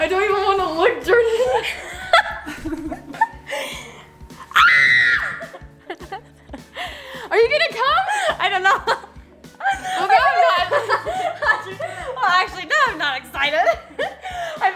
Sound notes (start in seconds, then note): 2.1 laughing; 4.5 screaming; 9.6 laughs